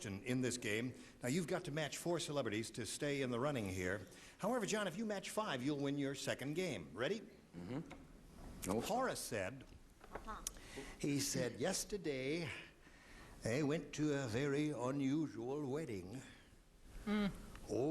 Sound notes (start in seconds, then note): none